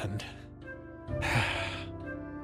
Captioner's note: sigh